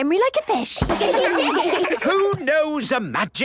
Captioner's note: children laugh